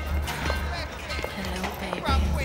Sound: women laughing and jeering; sultry

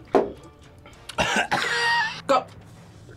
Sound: coughs

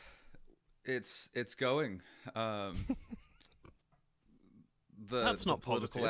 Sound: laughter

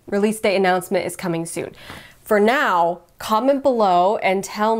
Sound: none

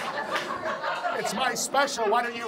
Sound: audience laughs

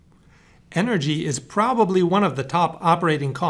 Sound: voiceover

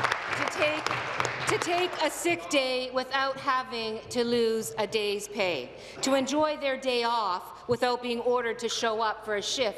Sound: applause

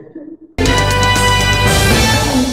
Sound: news Broadcast Sound

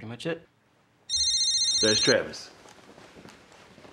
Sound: phone calls

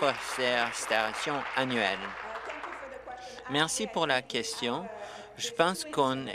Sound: applause

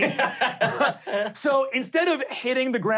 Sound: laughing

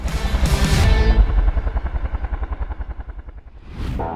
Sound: blades whirring

